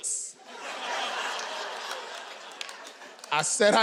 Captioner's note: audience laughing